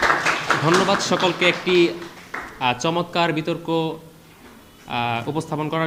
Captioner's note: applause